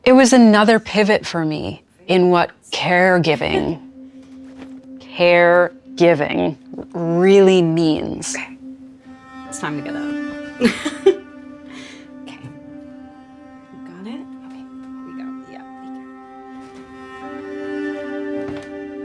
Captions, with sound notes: it was another pivot for me in what caregiving, caregiving, really means. It's time to get up. (laughs) Okay, we got it? Okay, we got it, yeah. (gentle music)